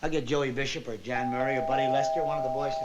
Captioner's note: door bell ringing